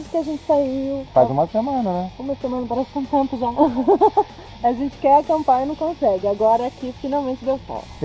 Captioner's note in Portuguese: risada